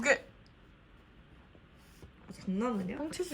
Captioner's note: silence